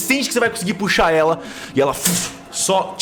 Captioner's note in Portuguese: fush